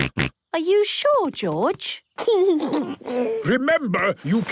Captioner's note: giggles; George snorts